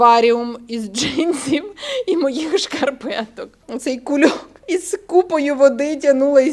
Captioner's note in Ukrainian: сміх